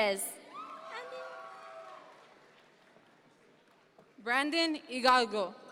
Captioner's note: audience members cheer